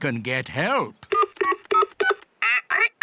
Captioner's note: imitates dial tones; dial tones beep